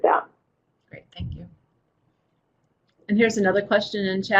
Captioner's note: voiceover